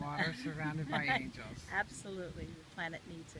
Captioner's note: chuckles